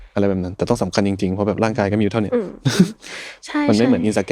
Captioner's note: laughs